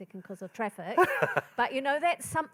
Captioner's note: laughing